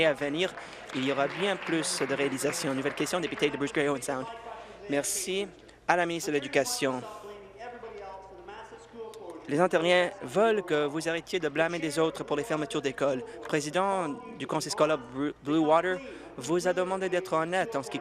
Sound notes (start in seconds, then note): 3.7 applause